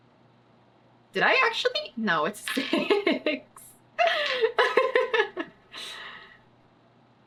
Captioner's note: laughs